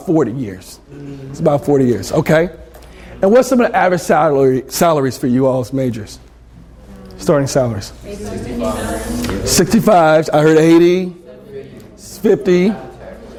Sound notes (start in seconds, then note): 8.3 students talk at once